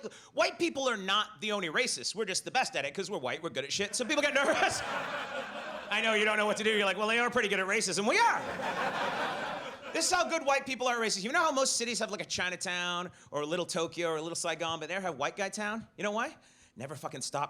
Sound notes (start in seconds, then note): 3.9 audience laughs; 4.0 laughs; 8.2 audience laughs